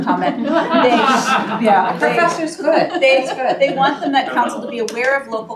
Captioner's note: laughs